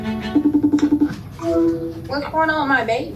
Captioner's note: computer chiming